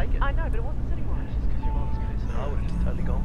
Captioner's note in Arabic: امرأة في الراديو